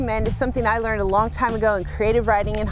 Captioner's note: scratching